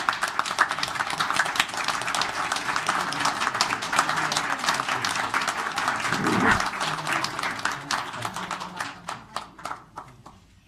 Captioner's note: applause